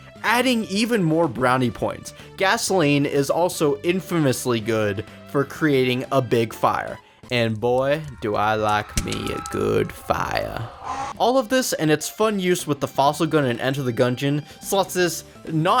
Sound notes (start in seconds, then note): 10.8 scream